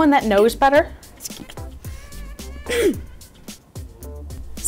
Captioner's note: clears throat